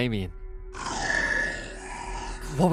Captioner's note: growls